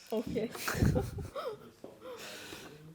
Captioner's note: laughter